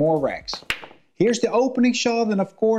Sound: pool balls tapping

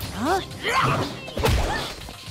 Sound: grunting

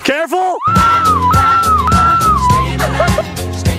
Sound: screaming

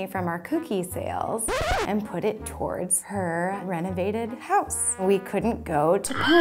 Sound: record scratching; horse neighing

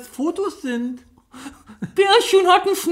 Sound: laughs

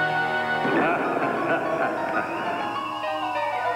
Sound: laughing

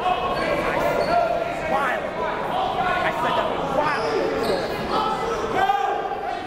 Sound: crowd talking; coaches yelling

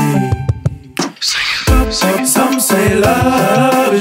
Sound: humming

